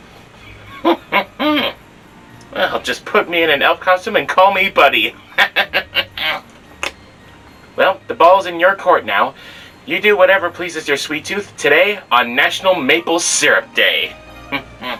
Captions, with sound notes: (mumbled giggle) Well just put me in an elf costume and call me Buddy! (laughs) Well, the ball's in your court now. You do whatever pleases your sweet tooth today in National Maple Syrup Day!